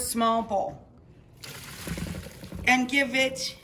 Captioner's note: water rushes through strainer